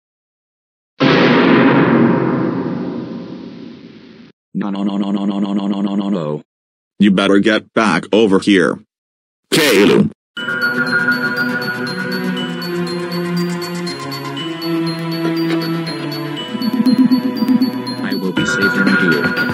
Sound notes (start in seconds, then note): 1.0 goanimate scary sound